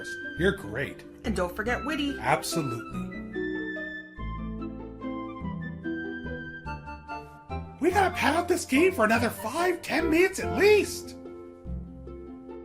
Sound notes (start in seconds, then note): none